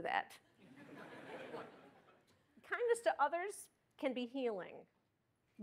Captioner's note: laughter